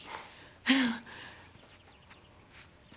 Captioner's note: laughing